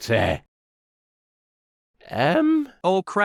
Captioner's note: pause